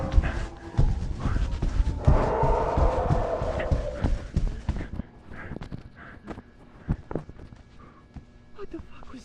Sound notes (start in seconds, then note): 0.0 heavy breathing; 2.0 screech